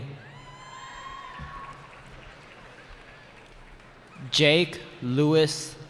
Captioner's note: cheering